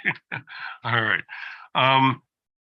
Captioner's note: laughter